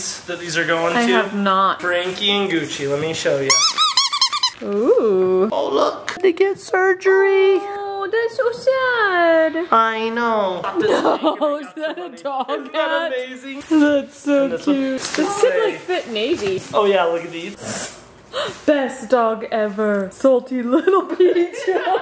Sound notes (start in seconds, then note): 3.4 toy squeaks